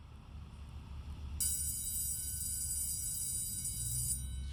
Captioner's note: bell rings